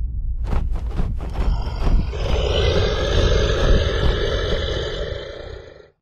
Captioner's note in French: Grognement